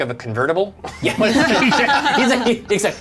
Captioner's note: all laugh